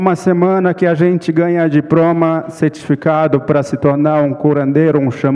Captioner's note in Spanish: Ponente habla en portugués